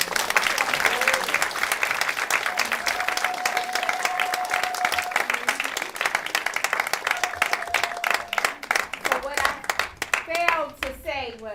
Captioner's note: applause